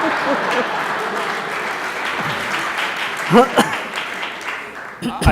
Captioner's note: audience applauds; audience laughs